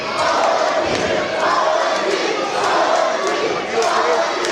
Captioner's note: crowd chanting